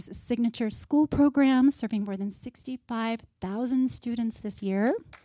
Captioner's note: applause